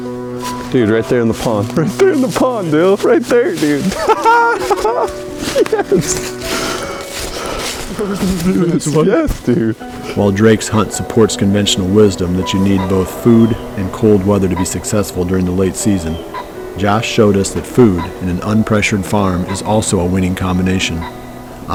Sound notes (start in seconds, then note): 3.8 excited voices, laughter